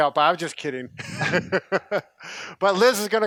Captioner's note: laughing